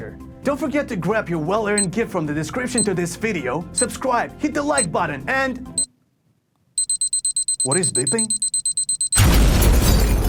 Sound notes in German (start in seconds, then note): 6.8 Bombe piepst